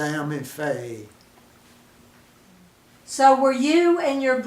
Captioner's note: pause